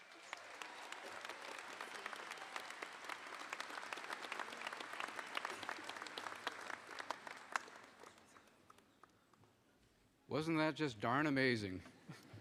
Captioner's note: applause